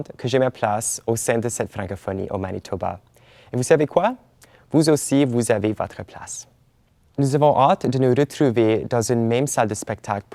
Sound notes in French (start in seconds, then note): none